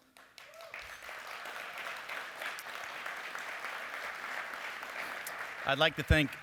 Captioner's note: applause